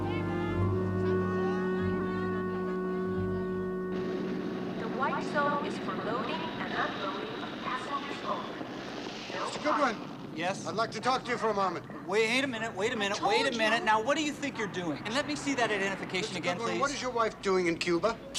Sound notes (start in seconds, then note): 4.7 woman over PA